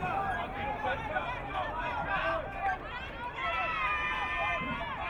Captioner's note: crowd cheering